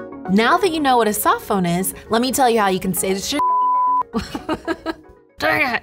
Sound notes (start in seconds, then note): 3.4 beep